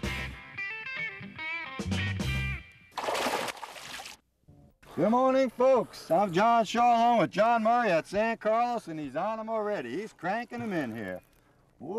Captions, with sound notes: [music stinger] [splash] good morning folks! I am John Shaw with John Murray at San Carlos and he's on them already he's cranking them in here.